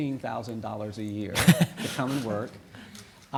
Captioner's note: audience laughing